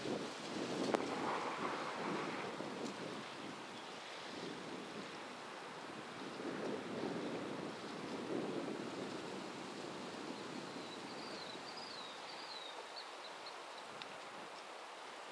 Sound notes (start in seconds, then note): 10.8 bird chirping